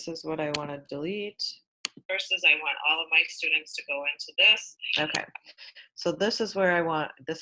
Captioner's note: recording sounds